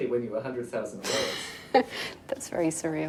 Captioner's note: giggling